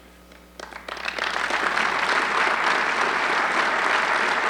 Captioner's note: audience clapping